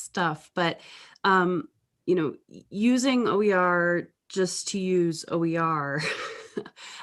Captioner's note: chuckles